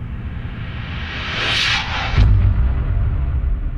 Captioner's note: whoosh